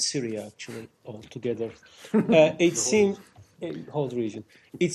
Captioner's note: laughter